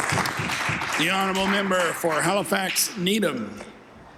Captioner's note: applause